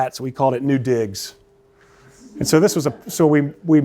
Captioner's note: laughter